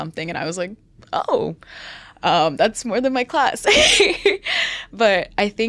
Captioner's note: laughs